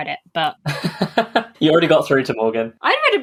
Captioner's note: laughs